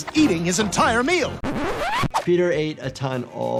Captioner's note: record skips